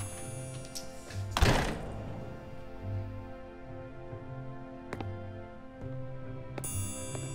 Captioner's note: gentle music continues; door slamming; footsteps plodding